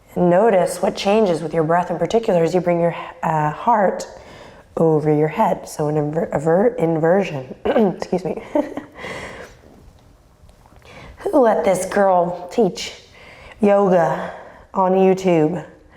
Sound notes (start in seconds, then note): 7.6 clears throat; 9.2 laughs